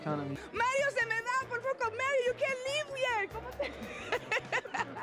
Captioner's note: speaking Spanish